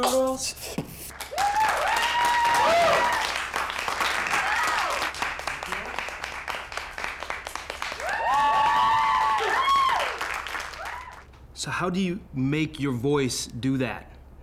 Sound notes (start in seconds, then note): 1.2 loud cheering